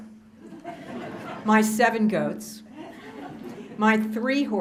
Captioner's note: laughter